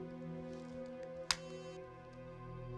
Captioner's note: phone clicks shut